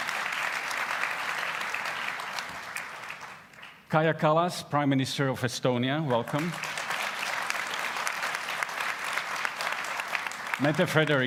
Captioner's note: applause